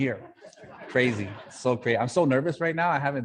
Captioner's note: audience laughing